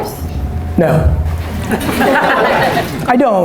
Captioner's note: laughter